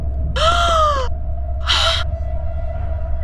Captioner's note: Leah gasps